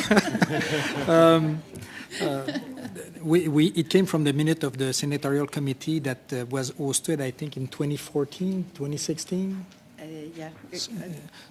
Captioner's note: laughter